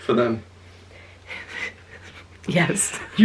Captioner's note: laughs